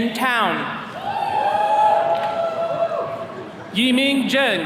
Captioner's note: attendees cheering